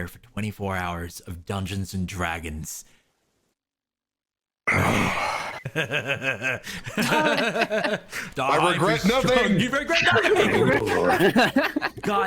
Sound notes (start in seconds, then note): 4.6 satisfied grunt; 5.6 gleeful chuckles